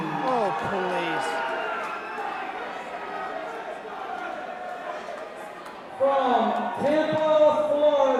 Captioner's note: crowd chatter